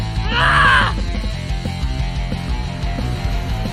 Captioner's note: woman shouting